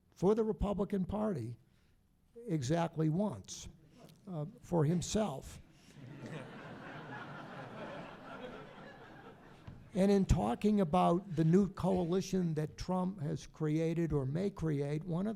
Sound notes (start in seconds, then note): 5.9 audience laughing